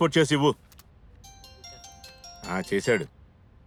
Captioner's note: mobile phone rings